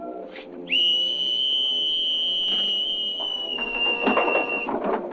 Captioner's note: whistle blowing